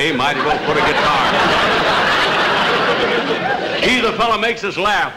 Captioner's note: audience Laughing